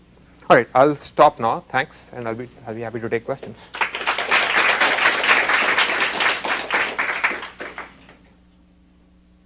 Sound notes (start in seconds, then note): 3.6 applause